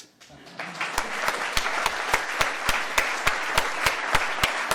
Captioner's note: applause